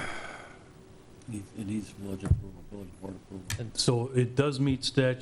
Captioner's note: faintly speaking